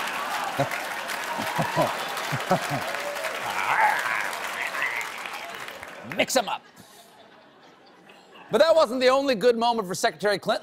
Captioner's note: applause